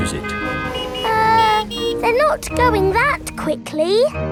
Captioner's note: horns honking